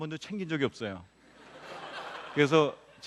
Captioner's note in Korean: 웃음